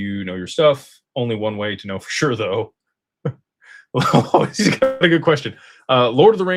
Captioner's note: laughter